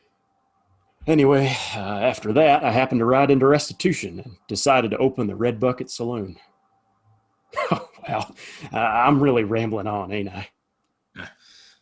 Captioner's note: laughs